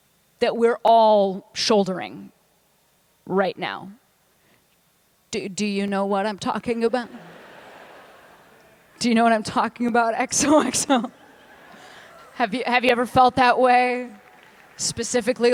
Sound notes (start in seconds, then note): 7.0 laughter